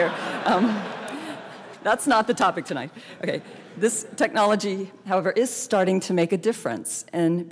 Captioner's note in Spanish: Risas